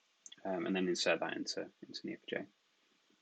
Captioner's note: murmurs